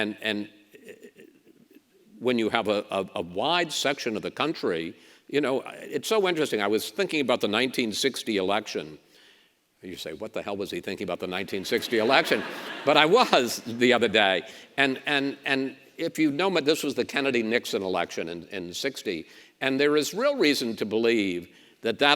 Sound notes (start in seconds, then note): 11.5 audience laughs